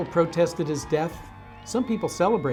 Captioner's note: crowd cheering